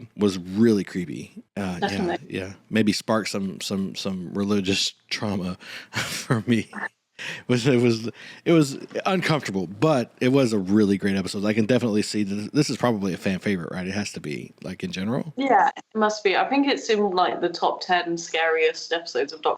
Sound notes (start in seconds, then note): 5.9 laughs